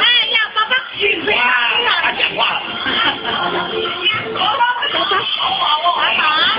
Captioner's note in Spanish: conmocion atrás